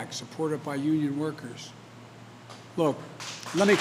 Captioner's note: applause